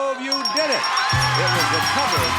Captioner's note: audience cheers and applauds; counter beeps; upbeat music; audience cheers and applauds